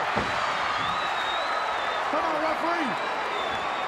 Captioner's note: crowd cheers